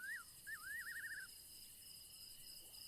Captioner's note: crickets chirping